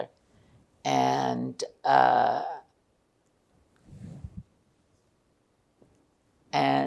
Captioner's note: pauses 6 seconds